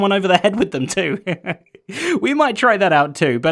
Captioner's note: chuckles